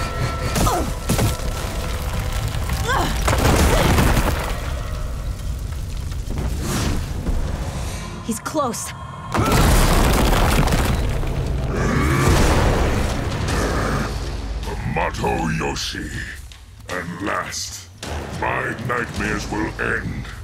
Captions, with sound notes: [grunting] [grunting] He's close. Hamato Yoshi. At last, my nightmares will end,